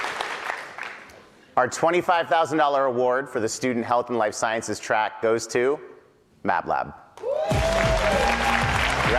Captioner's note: applause